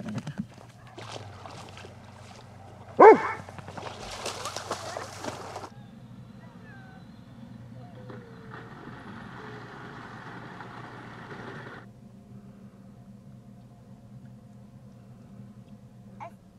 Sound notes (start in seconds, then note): 0.0 dogs barking; 8.8 dogs barking